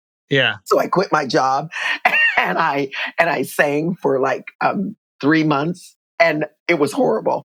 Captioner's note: laughter